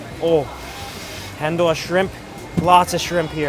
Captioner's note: foreign language